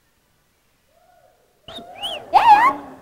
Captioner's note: whistling